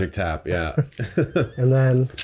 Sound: chuckling

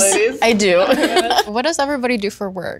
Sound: all giggling

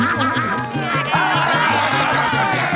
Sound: crazy laughing; fish yelling

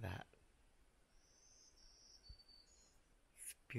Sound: birds chirpping

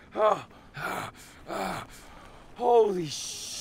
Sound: grunting

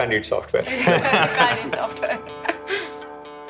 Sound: laughter

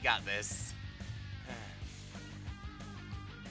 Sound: sigh

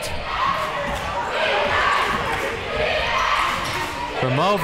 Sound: crowd

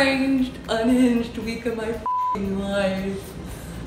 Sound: beep

